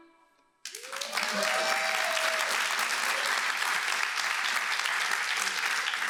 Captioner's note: applause